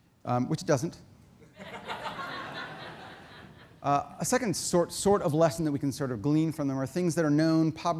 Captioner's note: audience laughter